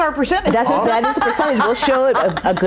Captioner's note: laughing